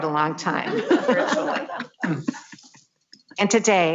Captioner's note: laughs